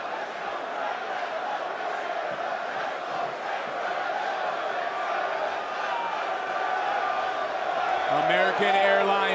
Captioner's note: crowd cheers